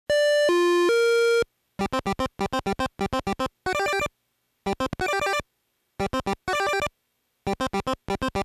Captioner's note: arcade sound effects play